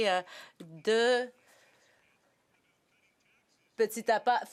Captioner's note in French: voix de l'interprète